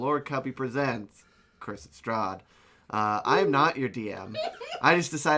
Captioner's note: laughing in the background